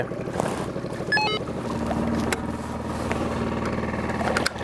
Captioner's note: radio clicks